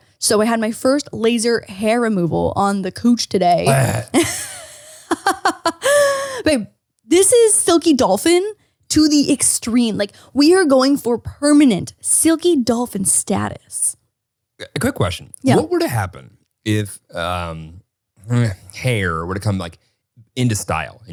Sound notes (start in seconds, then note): 3.6 grumbling; 5.2 laughing